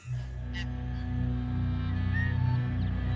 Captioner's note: birdsong